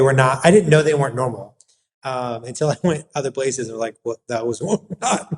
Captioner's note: laugh